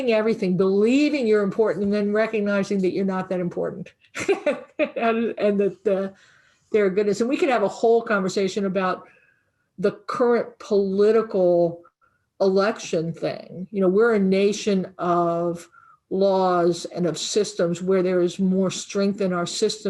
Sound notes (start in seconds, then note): 4.2 laughing